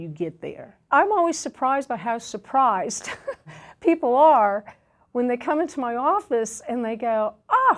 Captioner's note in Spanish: risas